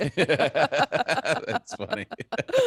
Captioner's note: all laughing